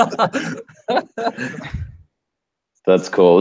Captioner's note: laughter